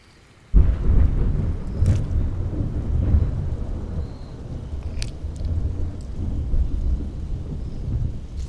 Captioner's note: A crash of thunder amidst heavy rain